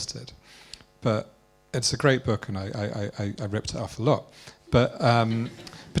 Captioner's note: laughter